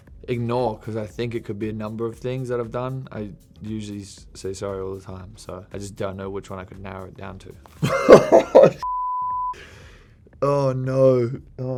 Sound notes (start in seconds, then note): 7.8 Harry laughing